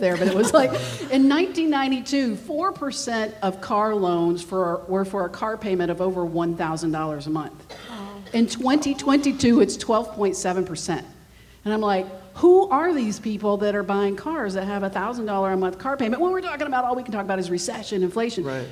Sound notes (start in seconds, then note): 7.8 gasps